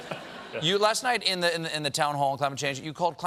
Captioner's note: laughter